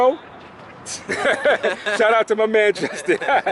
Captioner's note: laughing